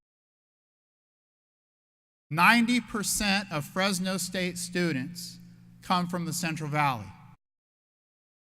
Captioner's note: none